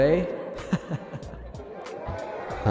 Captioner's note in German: lacht